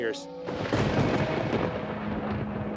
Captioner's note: thunder crashing